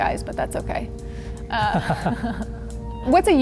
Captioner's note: laughter